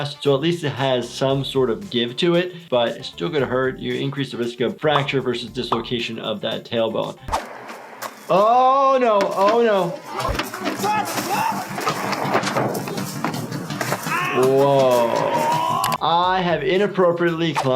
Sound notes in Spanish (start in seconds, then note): 11.0 gritando; 13.9 gritos